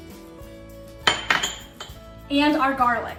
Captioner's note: upbeat music; glass clanging